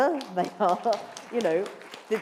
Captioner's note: applause